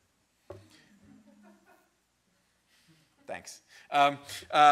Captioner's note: a student laughs